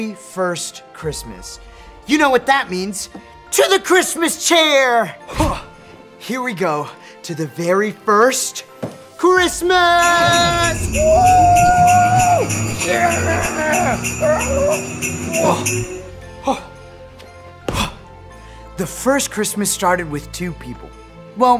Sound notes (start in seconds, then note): 10.0 cheering